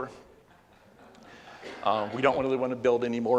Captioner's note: laughs